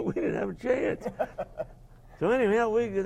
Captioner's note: laugh; laughing